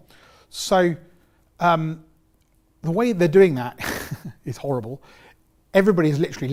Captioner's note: laughs